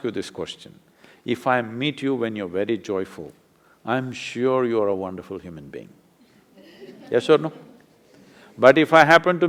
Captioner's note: laughter